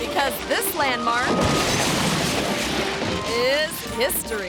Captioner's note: wall crashes